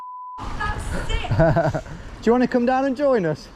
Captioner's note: beep; laughs